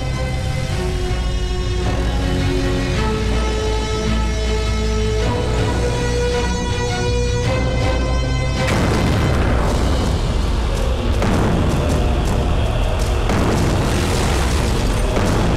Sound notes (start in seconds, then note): 8.5 Explosion